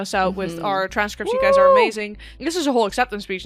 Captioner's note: cheers